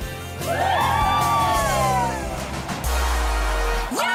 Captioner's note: team cheers; dance music